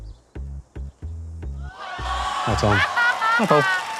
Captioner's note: audience gasps